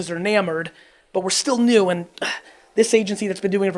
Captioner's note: sucks breath over teeth